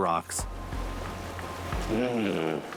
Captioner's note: waves crashing; grumbles